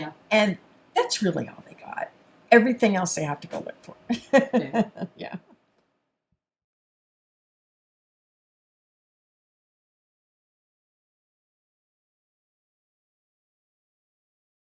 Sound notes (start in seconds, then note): 4.2 laughs